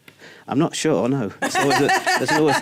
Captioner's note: laughs